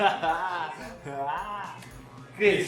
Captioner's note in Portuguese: risos